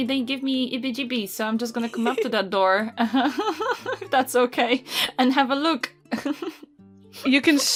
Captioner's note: laughs